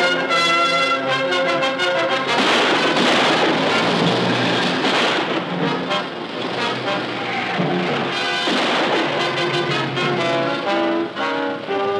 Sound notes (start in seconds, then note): 7.8 gun firing